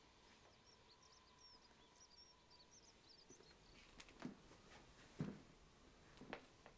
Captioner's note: none